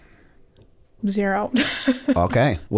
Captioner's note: chuckle